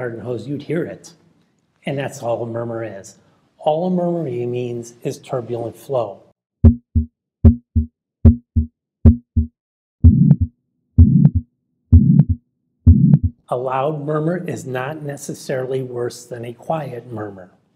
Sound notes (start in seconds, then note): 6.7 heart beating; 9.6 heart beating loudly